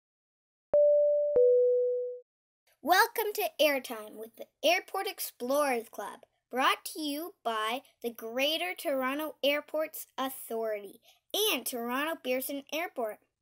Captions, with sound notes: [Audible Ding Dong Noise] Welcome to airtime with the Airport Explorers Club, brought to you by the Greater Toronto Airports Authority, and Toronto Pearson Airport.